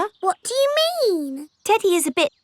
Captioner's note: in normal voice